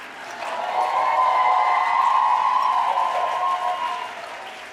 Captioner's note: audience cheering